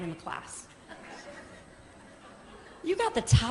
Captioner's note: laughter